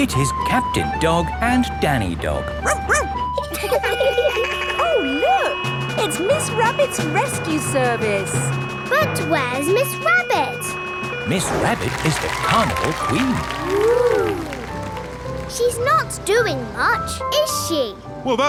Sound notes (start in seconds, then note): 2.6 barks; 2.6 laughing; 3.7 sirens sounding